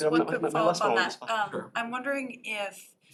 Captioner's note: off-mic